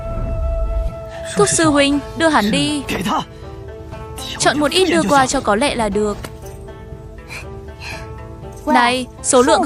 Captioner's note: hắng giọng